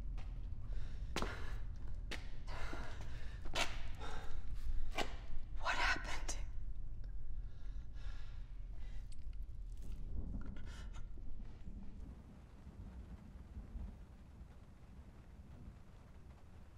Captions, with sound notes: What happened? [thunder rumbling] [rain pattering on window]